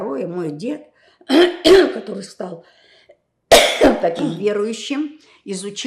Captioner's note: clears throat; coughing